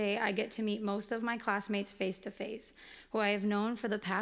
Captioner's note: none